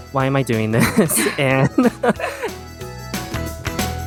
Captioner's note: laughs; upbeat music